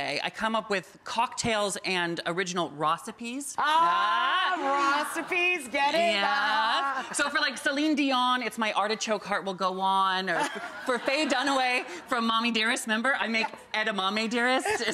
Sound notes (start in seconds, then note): 3.6 both exclaim ah; 10.3 Rachael and audience laughing